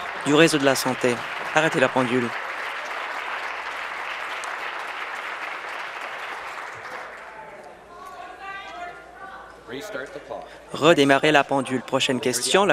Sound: applause

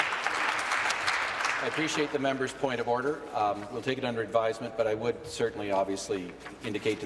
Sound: applause

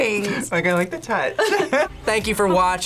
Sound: laughs

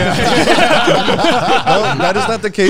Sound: all laughing

